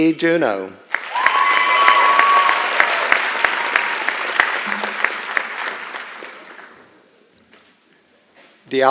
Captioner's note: applause and Cheering